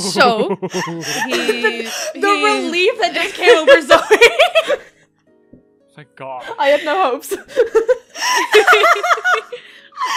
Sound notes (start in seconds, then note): 0.2 laughing; 0.4 chuckles nervously